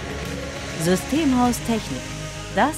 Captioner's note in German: Raketentriebwerk dröhnt